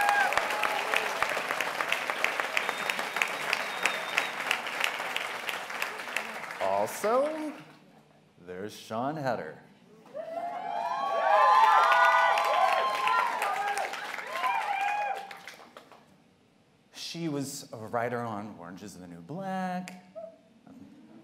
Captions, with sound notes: [ Applause ] Also, there's Siân Heder. [ Cheers ] She was a writer on "Orange is the New Black,"